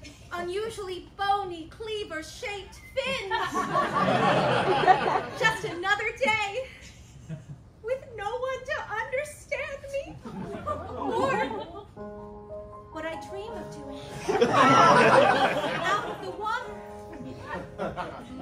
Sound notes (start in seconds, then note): 3.1 laughter; 14.2 laughter